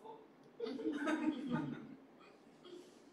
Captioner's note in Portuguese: risos